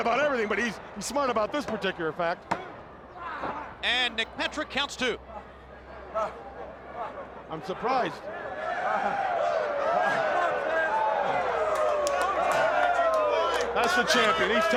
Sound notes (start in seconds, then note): 2.0 crowd cheering